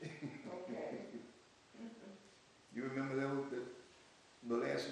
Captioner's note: laughs